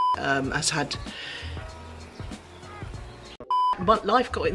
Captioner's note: beep; breathes in quickly; beep